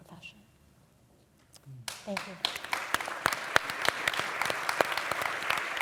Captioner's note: applause